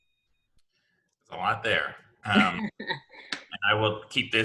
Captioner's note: laughing